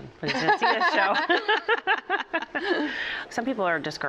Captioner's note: laughter